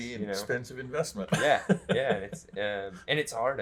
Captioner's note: laughs